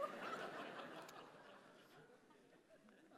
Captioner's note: laughter